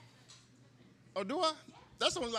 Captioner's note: woman off-stage talks